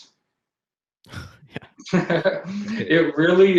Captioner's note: both laughs